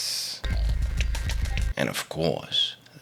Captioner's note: scary noises